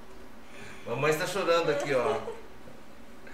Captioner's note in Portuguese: risos